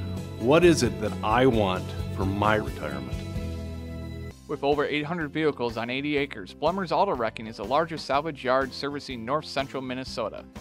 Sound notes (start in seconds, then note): 4.8 voiceover